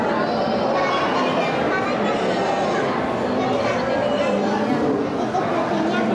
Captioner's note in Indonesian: suara anak-anak